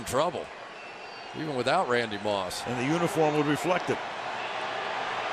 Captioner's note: crowd cheering